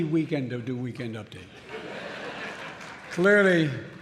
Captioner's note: laughter